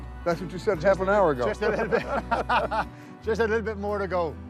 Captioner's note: laughing